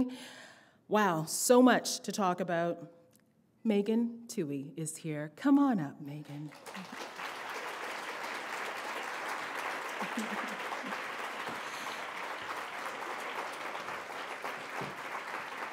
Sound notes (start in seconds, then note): 9.7 applause